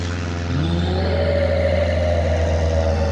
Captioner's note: roar